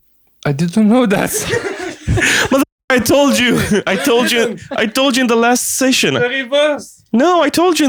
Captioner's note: laughter